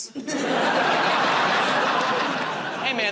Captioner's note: laughter